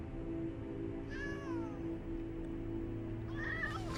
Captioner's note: meowing